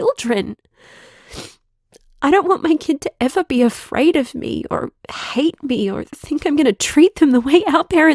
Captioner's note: tearful